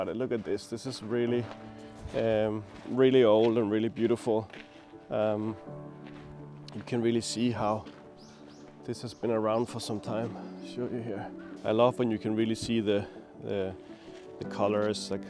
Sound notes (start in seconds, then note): 4.3 light footsteps